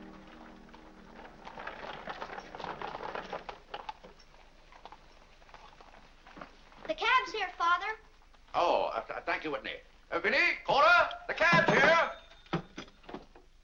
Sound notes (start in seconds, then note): 0.0 hooves trotting